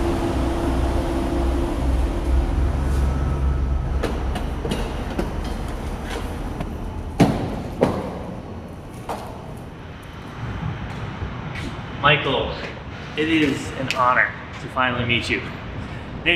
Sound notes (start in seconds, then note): 7.2 door thuds